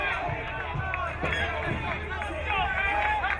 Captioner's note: crowd cheering